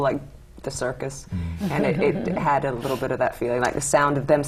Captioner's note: laughter